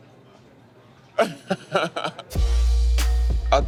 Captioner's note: laughs